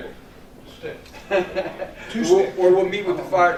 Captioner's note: laughter